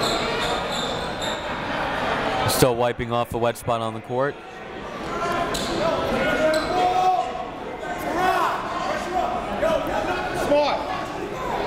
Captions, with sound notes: Still wiping off the wet spot on the court. (crowd talking) (coach yelling)